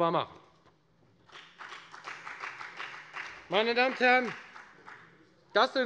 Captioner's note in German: Beifall bei der FDP - Zurufe von der SPD: Und jetzt?